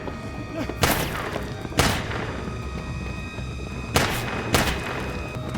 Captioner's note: gunshots